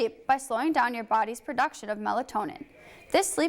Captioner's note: none